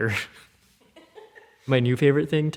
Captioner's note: laughter